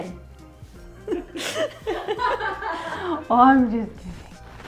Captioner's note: laughs happily